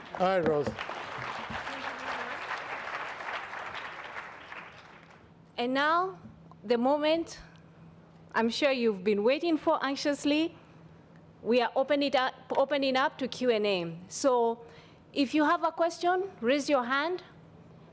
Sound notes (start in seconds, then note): 5.6 audience applauds